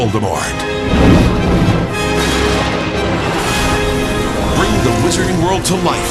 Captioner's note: crashing and whirring